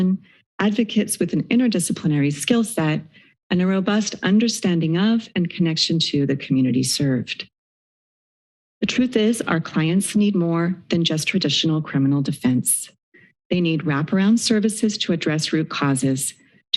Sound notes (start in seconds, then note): 7.8 silence